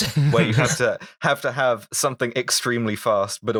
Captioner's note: laughter